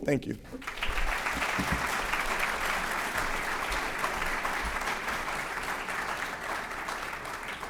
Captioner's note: applause